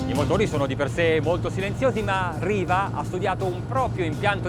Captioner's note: speaking foreign language